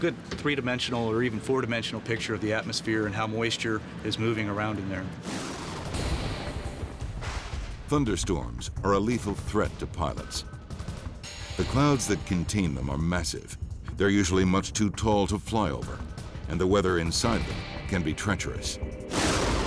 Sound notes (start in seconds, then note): 5.6 lightning crashing; 19.1 lightning crashing